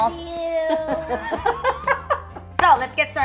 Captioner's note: laughter